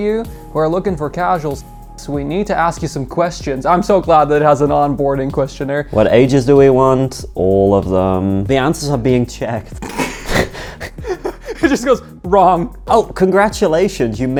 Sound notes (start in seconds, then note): 9.8 both laughing